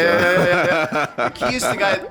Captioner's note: laughs